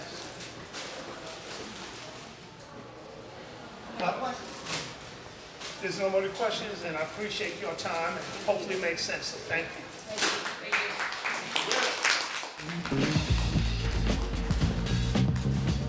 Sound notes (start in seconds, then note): 10.3 applause; 12.7 jazz music